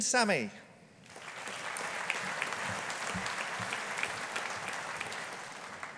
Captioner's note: audience applauding